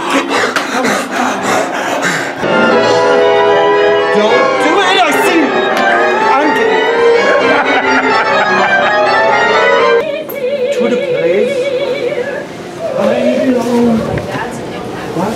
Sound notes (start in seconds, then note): 0.0 heavy breathing; 2.6 symphonic music; 4.1 people chatting